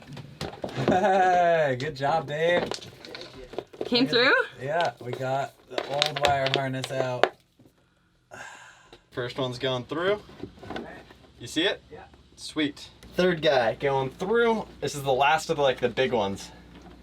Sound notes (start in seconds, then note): 0.9 laughing; 3.3 murmurs